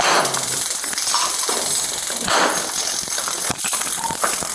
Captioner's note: taser buzzing